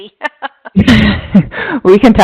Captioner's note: laughing